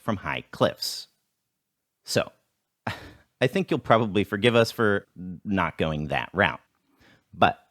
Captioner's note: deep Breath